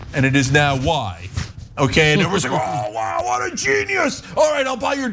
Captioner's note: laugh